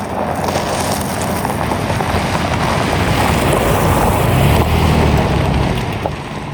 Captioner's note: car engine humming; tires scrunching